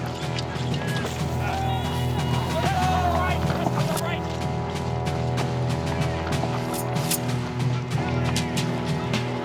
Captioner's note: men yelling in the distance